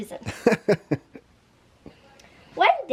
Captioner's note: dad laughs